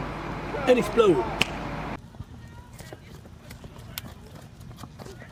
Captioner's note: snaps finger